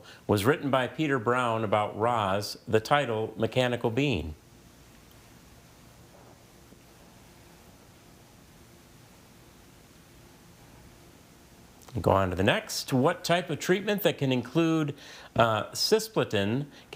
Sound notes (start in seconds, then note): none